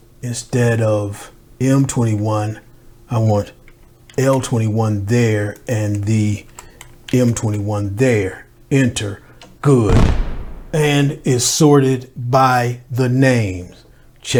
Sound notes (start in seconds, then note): 9.9 fireworks explode